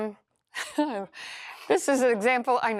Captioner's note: laughs